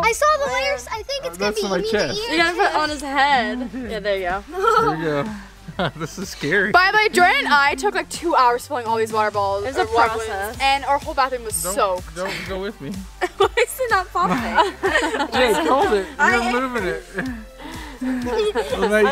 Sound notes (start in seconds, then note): 13.2 laughing